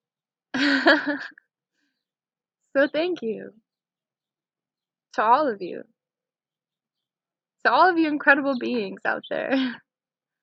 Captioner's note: laughing